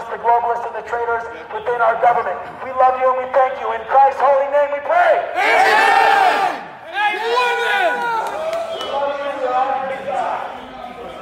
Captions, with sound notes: the globalists, and the traitors within our government. We love you and we thank you, in Christ's holy name we pray. - [Crowd] Amen. [crowd yelling and murmuring]